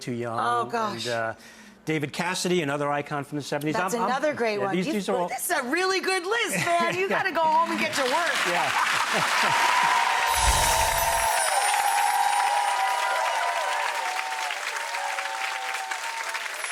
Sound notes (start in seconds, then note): 7.5 cheering and clapping; 8.3 bells chiming; 12.8 audience cheering and clapping